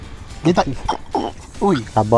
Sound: fish make noises

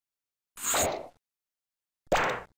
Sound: sch-pop!; pop!

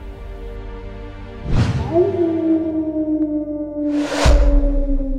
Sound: coyote Howl

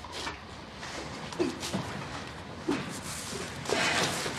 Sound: grunts with exertion

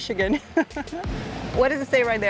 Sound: laughs

